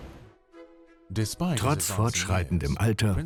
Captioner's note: voiceover